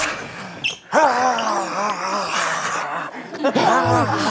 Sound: scary zombie cries

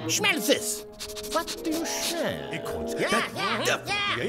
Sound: Sound Effects: animals sniffing, voices saying "That's Acorns!"

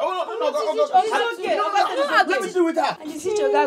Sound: arguements

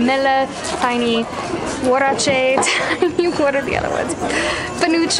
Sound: laughs

